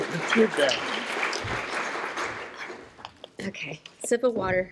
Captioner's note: applause